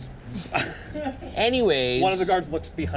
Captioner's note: laughs